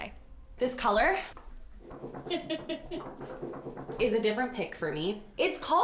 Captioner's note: laughs